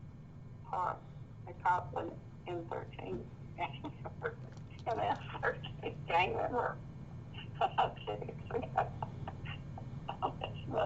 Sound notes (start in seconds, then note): 4.3 laughing